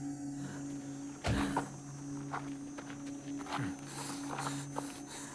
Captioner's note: Mark breathing heavily